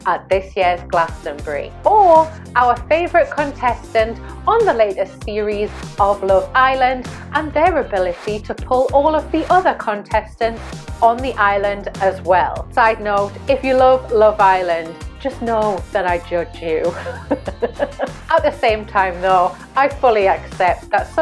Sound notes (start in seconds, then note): 16.9 laughs